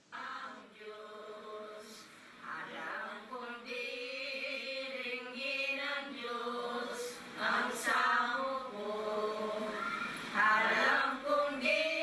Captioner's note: chanting and praying